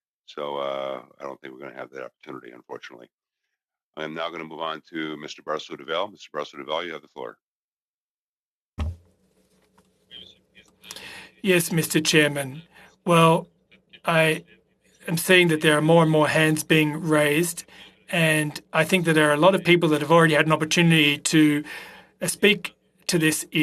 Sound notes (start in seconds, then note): 15.7 speaking French